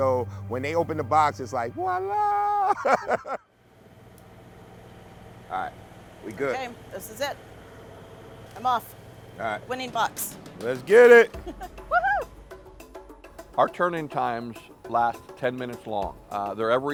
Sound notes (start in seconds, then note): 1.8 laughing